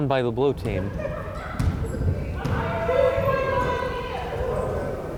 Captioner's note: players shouting